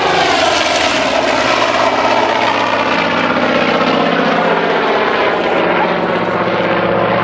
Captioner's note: plane and explosion